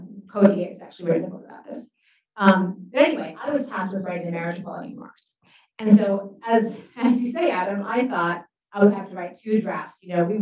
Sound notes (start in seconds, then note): 6.2 chuckles